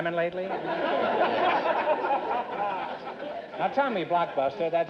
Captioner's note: audience laughter